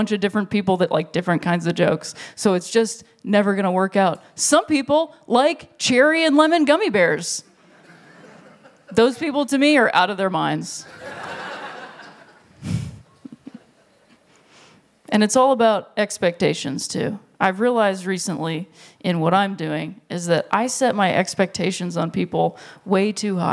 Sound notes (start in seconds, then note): 10.8 laughter